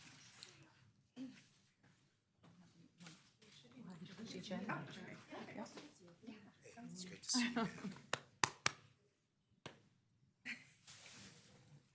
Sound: applause

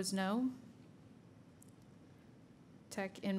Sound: silence

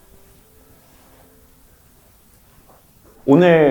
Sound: silence

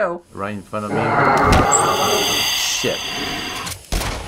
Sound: deep hissing

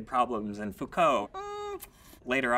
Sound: tongue clicking

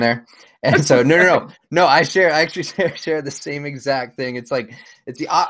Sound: mumbling

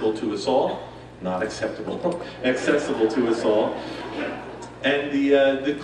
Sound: laughs

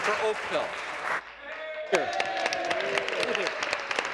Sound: applause

